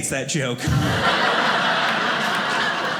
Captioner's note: audience laughing